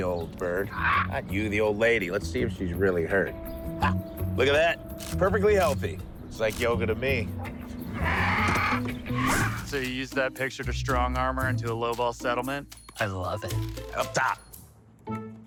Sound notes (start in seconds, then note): 0.5 bird squawks; 7.4 engine roars; 7.8 bird squawks; 14.4 deflated music